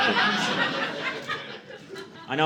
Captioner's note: audience laughing